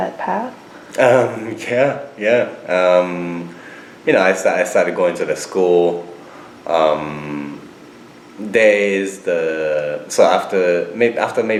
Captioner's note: chuckles